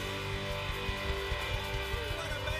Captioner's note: cheers and applause